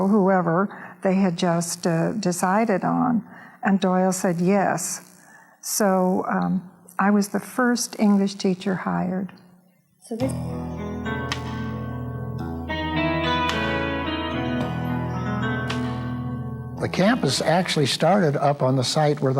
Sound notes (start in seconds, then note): 10.1 voiceover; 10.2 soft country music